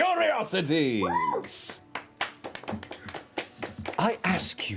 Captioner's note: applause